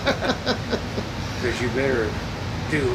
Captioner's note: laughs